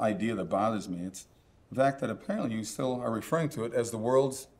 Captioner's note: none